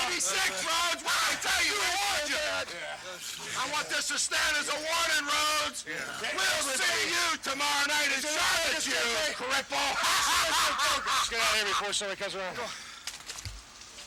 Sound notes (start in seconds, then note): 8.2 people laughing